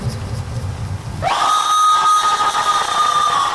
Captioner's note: screaming